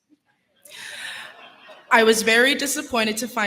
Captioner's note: laughter